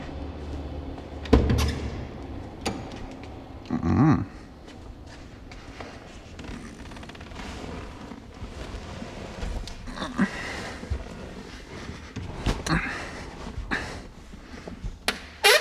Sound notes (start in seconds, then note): 1.9 car door squeak